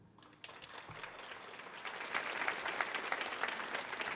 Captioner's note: audience applauding